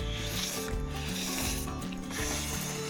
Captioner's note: slurp slurp